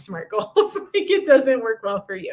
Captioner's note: laughter